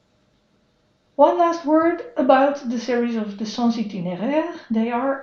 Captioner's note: foreign language